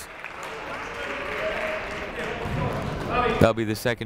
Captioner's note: crowd clapping